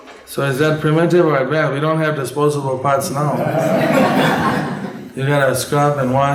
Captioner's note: laughter